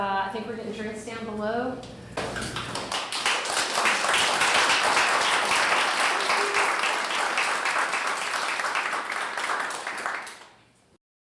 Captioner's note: audience applause